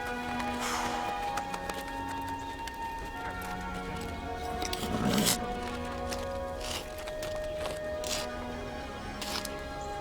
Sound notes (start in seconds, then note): 0.6 sigh; 0.9 clapping